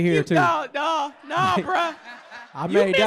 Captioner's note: laughter